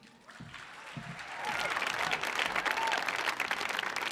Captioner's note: audience applauding